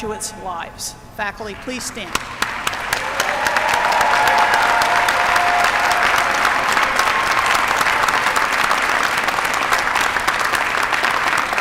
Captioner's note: applause